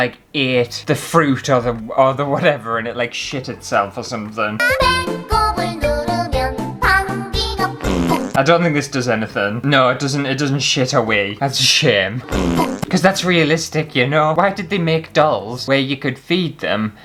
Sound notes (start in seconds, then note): 4.4 cute Jingle; 7.8 fart!; 12.2 fart!